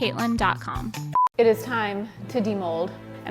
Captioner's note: beep